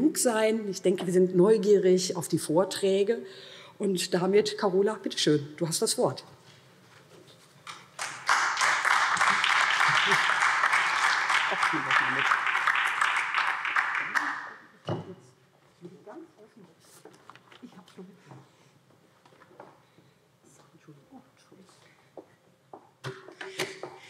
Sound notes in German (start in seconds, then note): 6.1 Beifall